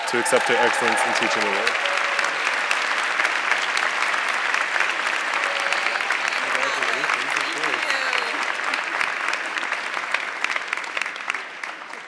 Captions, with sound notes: to accept her Excellence in Teaching Award. (audience clapping) - Thank you, Alex, thank you.